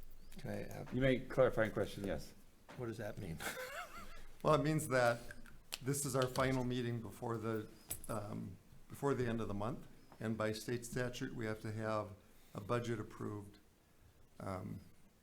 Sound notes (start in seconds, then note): 3.3 chuckles